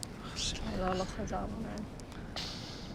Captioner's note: speaking Hebrew